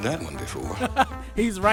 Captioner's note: laughs